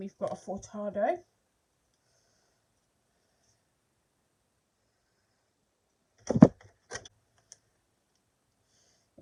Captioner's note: breathing